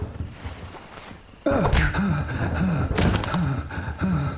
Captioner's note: punch thudding; Cooper huffing